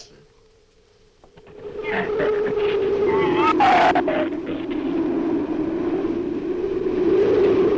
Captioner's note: wind howls; shrew snarls